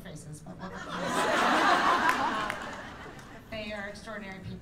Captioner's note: laughter